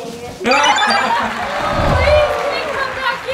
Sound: high-pitched beeps; applause

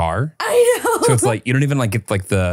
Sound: laughing

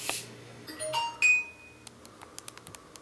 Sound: phone beeps; typing sounds

